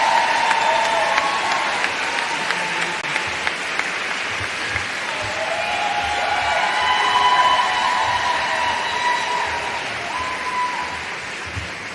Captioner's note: applause